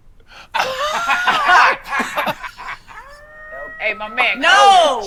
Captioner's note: laughing